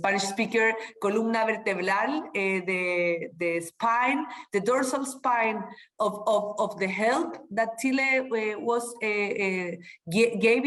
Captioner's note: speaking spanish